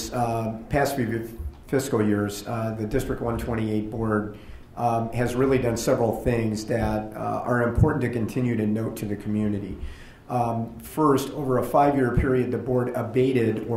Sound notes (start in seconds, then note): none